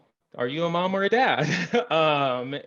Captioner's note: chuckles